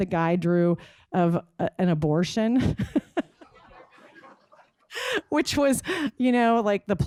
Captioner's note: laughs